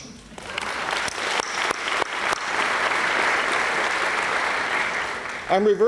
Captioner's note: applause